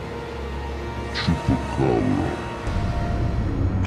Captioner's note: audio slows